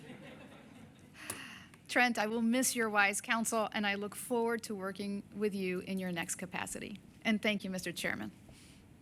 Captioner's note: laughter